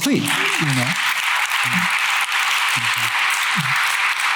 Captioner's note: applause